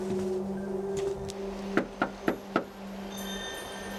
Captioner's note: knocking